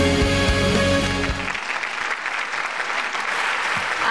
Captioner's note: applause